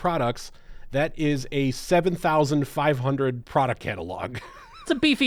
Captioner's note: laughs